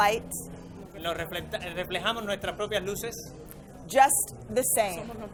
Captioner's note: interpreter speaking in foreign language; and interpreter speaking in foreign language